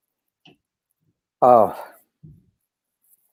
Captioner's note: sighs